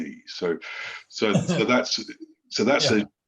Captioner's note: laughs